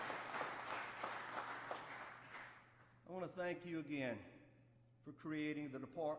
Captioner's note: applause